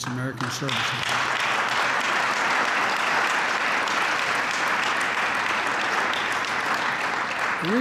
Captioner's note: applause